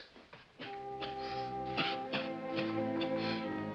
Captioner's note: coughs